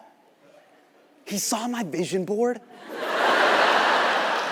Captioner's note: audience laughs